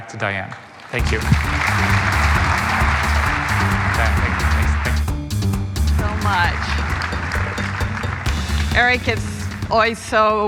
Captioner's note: applause